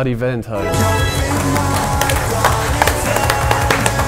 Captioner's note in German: Applaus, Jubel; Rockige Musik